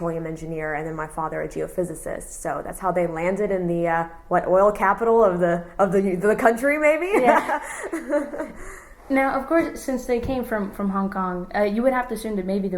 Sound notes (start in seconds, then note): 7.1 laughs